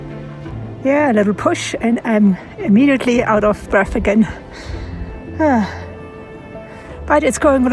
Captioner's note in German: seufzt